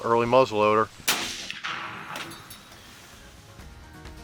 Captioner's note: gun fires